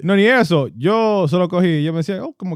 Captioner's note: speaking In Foreign Language